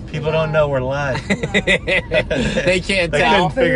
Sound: laughs

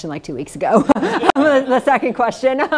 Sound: all laugh

